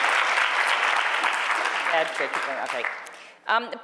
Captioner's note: audience applauding